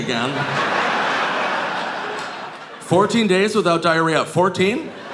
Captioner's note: audience laughing